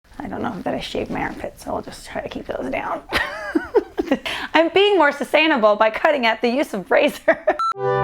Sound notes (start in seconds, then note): 3.0 laughs